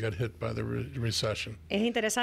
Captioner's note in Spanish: Hablando ingl\s